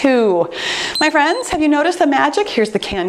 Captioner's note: timer beeps